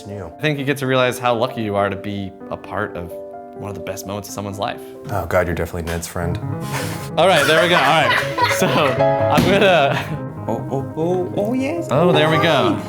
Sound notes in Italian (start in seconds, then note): 7.2 ride; 7.2 trattiene le risate